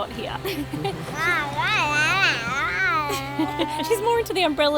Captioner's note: babbling